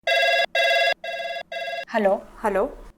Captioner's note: phone Rings